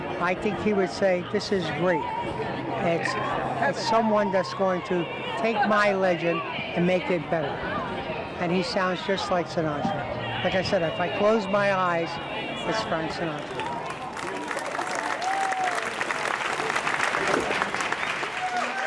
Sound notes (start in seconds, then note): 13.4 audience cheers